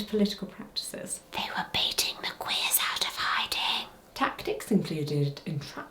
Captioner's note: whisper